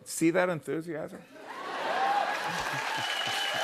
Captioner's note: laughter